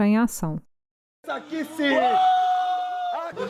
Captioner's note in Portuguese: gritos